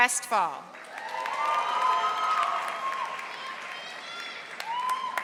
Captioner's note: audience applauding